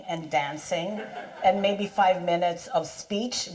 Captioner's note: audience laughs